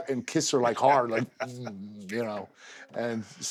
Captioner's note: laugh